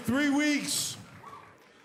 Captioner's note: cheers & applause